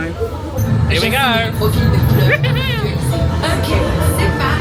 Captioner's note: laughs